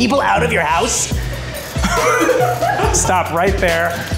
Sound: group laughing

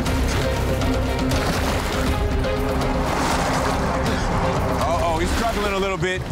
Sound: urgent music; water splashing

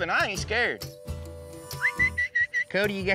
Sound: whistling

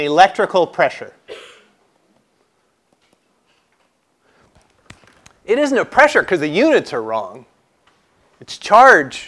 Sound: cough

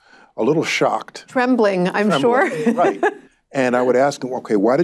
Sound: laughs

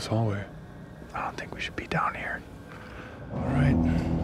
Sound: whispering; suspenseful music

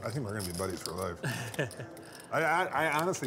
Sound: laughs

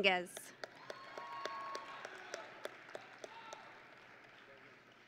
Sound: audience and graduates cheering

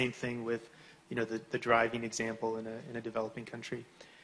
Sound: none

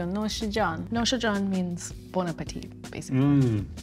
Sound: speaks in Farsi

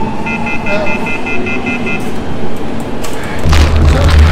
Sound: machine beeps

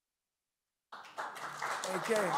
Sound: applause

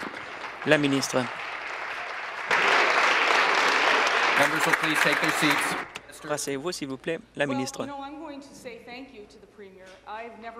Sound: applause

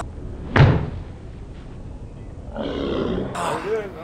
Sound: golf club striking mat; golf club striking mat in slo-mo

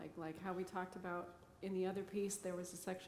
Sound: none

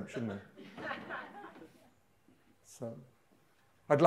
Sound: audience laughing

